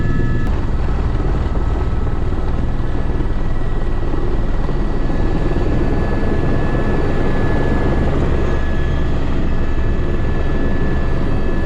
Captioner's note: helicopter landing